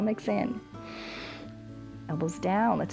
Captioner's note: inhales